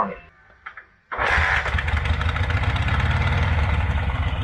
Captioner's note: engine revving